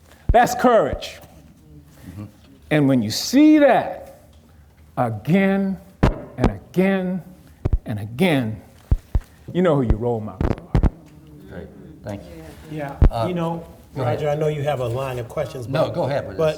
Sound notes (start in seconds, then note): 10.4 audience murmuring